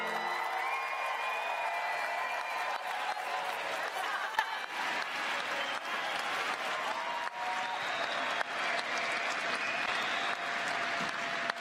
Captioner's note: cheers and applause